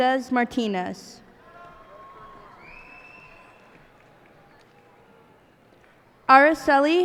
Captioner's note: cheers and applause